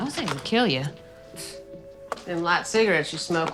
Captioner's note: scoffs